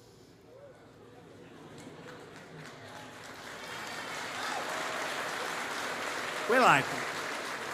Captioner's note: applause